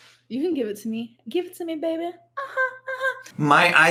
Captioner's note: hums